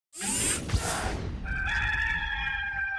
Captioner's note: mechanical Whir; rooster Crowing